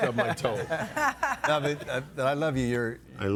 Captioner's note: group laughing